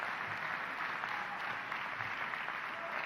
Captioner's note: applause